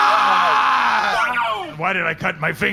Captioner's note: General Almost and Pleck scream in unison